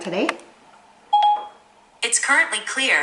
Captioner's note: ding